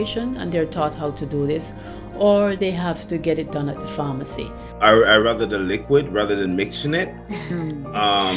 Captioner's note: laughter